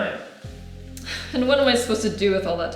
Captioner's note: sigh